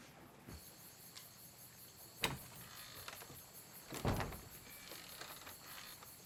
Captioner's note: crickets chirping